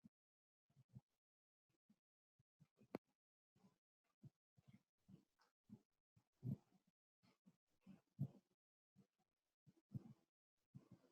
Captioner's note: pause